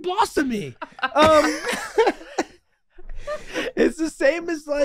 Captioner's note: group laughing